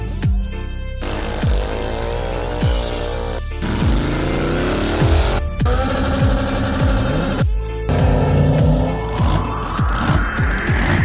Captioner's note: cars revving